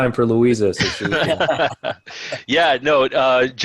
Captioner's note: laughing